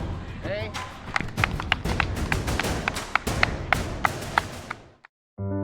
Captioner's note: audience clapping